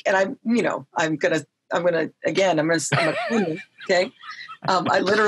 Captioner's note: laughing